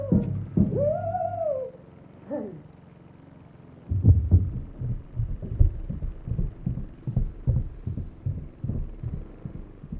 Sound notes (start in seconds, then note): 2.8 lawn mower engine humming; 3.9 drumming stops, footsteps